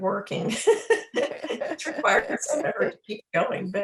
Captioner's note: both laughing